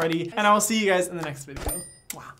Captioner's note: bell dings